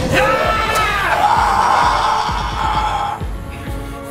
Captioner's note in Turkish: Tekrar Fredbear çığlık atıyor